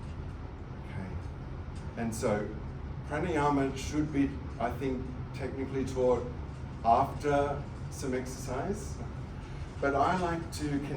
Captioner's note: breathing